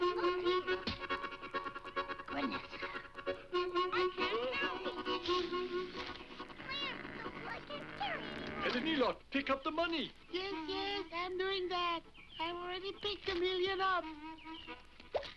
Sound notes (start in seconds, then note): 0.8 heads thwacking; 6.3 Dummy growls; 14.2 water patters